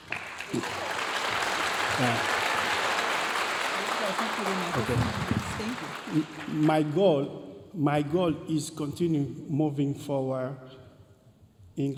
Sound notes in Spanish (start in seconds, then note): 0.0 aplausos y vítores de la audiencia; 6.1 hablando en inglés